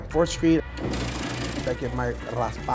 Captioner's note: car engine revving